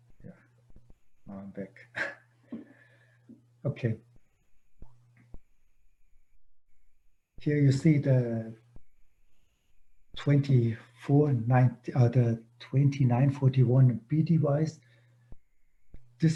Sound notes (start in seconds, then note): 1.9 chuckles